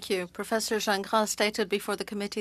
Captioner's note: speaking French